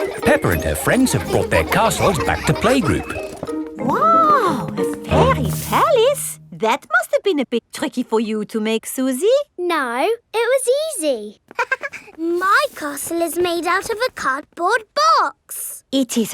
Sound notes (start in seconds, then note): 0.0 children laughing; 11.5 chuckles